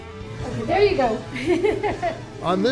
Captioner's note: laughing